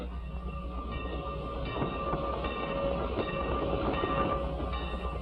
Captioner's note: train whistling